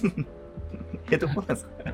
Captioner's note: laughing